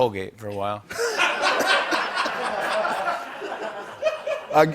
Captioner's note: laughter